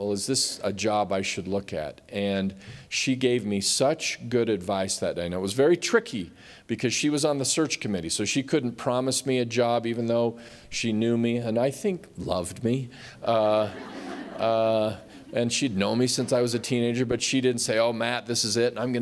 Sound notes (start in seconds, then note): 13.4 laughter